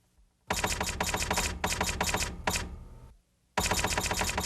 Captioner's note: typewriter clacking